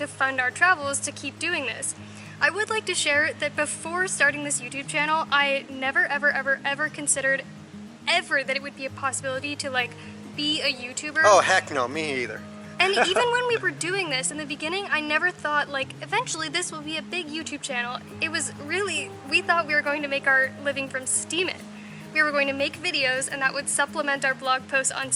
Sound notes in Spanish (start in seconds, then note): 12.9 Risas